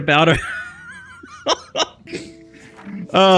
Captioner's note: laughs